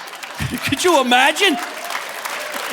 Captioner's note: audience laughing; chuckles